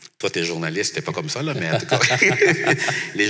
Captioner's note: laughs